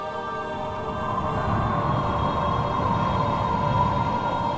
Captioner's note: wind howling